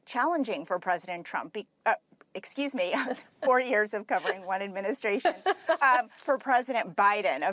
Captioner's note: laughter